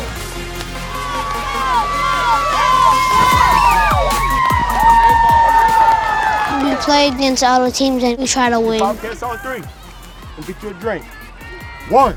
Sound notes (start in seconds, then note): 1.0 cheerleaders cheer